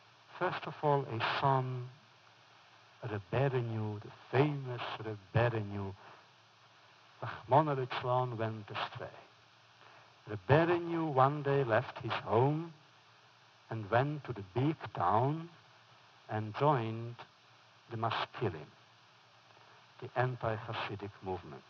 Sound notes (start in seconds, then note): 6.3 foreign language